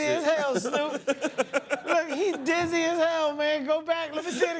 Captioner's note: laughs